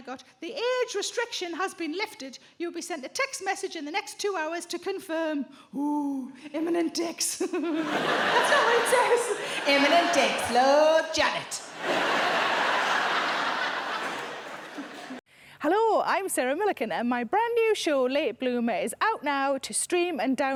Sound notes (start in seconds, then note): 11.7 chuckles; 17.1 audience laughs